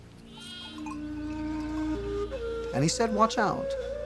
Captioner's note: sheep bleating